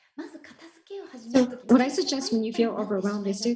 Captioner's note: Marie speaking foreign language